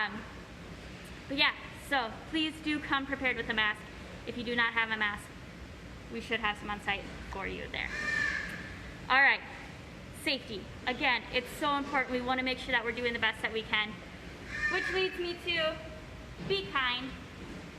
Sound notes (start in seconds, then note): 7.9 bird squawk